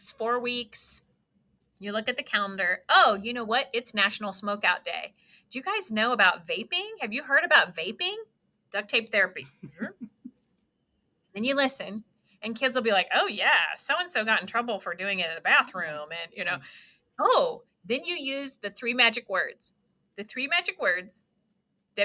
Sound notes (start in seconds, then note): 9.6 chuckling